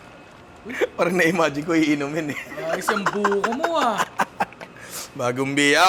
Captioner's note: laughs